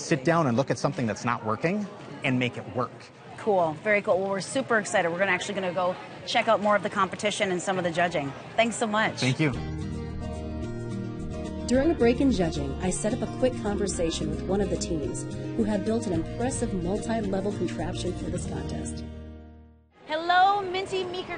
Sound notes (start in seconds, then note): 12.8 voiceover